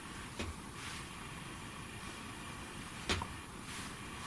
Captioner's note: thumping